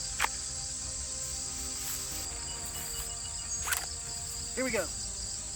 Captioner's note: gun shots